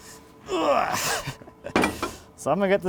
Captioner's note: grunting